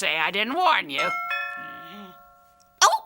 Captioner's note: doorbell rings